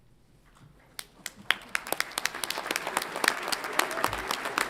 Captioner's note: audience applauds